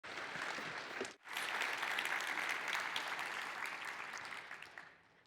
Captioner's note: applause